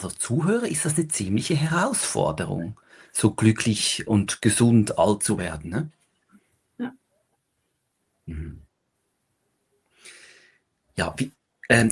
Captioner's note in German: räuspern